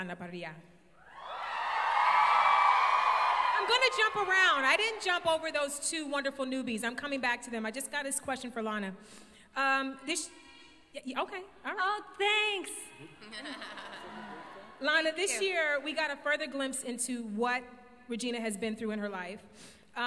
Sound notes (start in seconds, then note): 1.0 crowd cheers